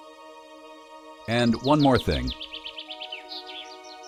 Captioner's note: birds chirp